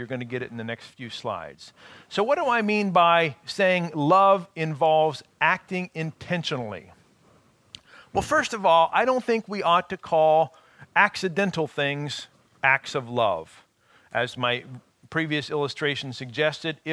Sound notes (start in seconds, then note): none